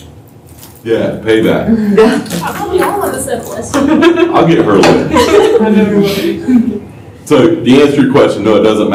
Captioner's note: laughter